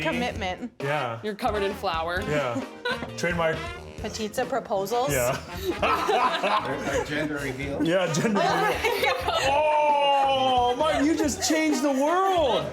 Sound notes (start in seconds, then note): 5.1 laughing